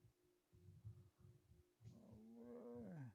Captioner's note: grunts